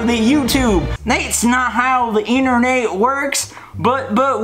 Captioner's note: very southern accent